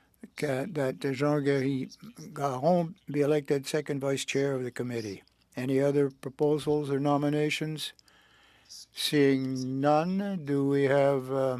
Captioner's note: speaking French